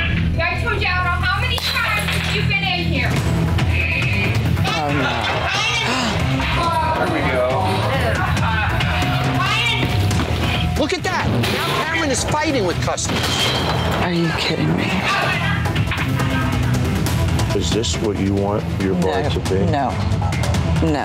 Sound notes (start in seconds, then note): 5.8 gasps